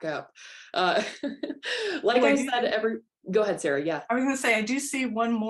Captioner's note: laughter